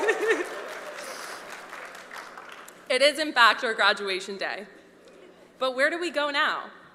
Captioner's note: laughter